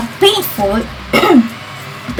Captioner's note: clearing throat